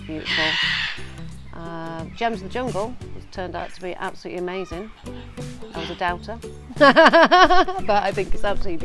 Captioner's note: laughing